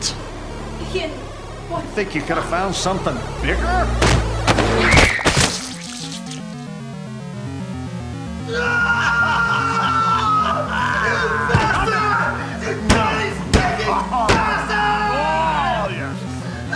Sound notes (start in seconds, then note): 4.1 Leah screams; 8.4 Ian screams; 9.9 The Mold laughs